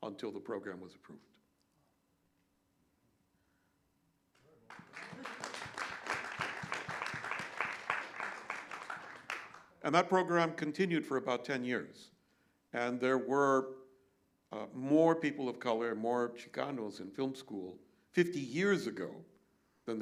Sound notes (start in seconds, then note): 4.6 applause